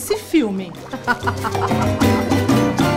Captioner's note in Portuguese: risadas